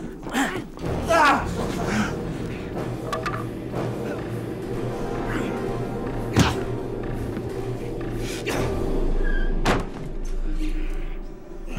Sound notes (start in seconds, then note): 0.0 grunting; 6.7 fleshy smack; 8.0 tense instrumental music